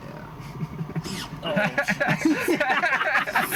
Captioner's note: brief laughter